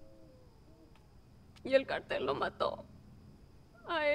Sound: Spanish; Spanish

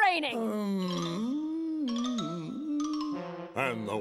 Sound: hacker hums

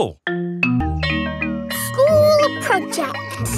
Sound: school bell rings

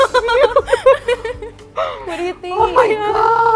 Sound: laughing

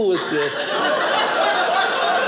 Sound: audience laughing

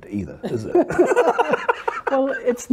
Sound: both laughing

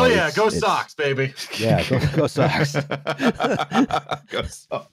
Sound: laughing

